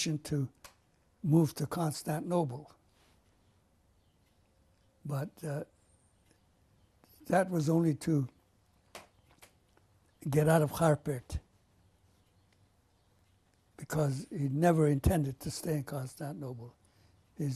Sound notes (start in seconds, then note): 2.0 pauses for 3 seconds